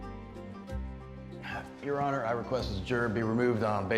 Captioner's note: sighs